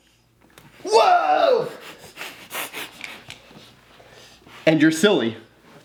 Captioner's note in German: lacht